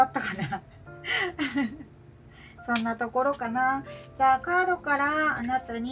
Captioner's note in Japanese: 笑い